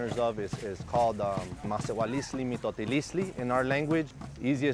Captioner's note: in foreign language